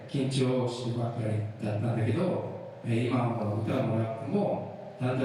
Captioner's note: speaking in foreign language